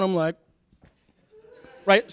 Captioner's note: laughter